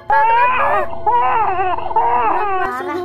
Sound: Clara Crying

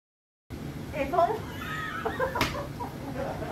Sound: laughter

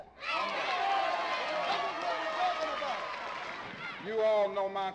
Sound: crowd cheering

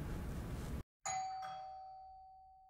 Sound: bell rings

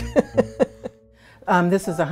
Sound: laughter

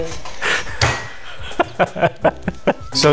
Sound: continue to laugh

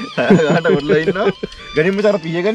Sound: laughing

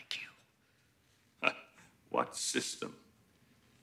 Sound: chuckles

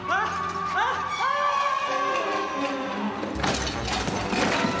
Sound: thud!

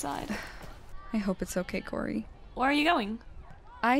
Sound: sighs

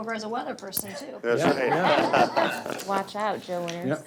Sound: laughing

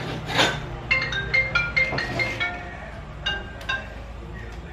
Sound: phone rings

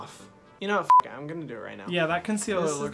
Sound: beeps

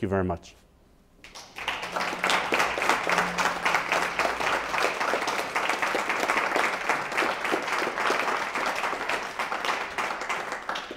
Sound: applause

